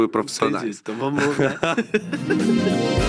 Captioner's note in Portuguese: risos